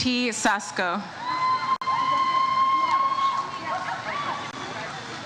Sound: audience cheers

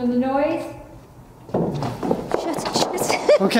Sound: bangs

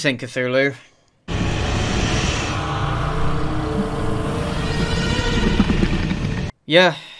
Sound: Garbled Cthulhu noises

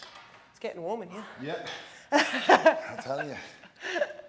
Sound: laugh

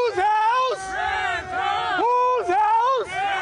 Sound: cheering

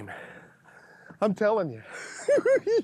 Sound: giggling

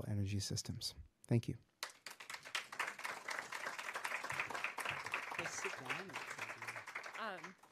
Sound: applause

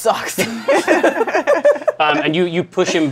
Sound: laughter

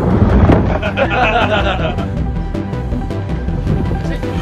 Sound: all laughing

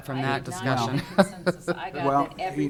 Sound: laughing

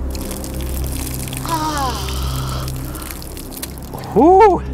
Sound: mixture splatters; ominous music

